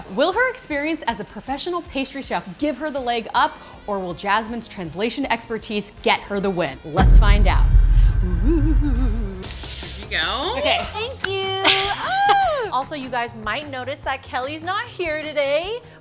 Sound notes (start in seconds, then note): 8.4 ghostly moan; 12.1 apprehensive cry